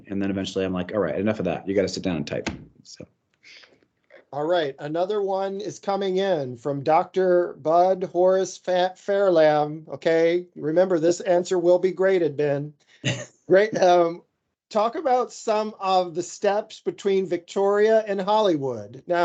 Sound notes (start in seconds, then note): 13.0 chuckles